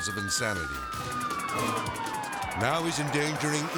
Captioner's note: sirens wailing